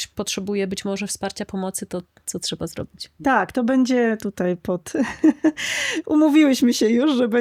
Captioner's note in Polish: śmiech